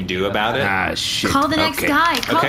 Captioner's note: flips through pages